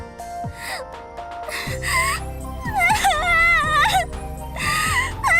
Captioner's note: waterworks